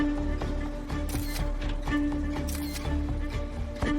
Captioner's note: shutter clicking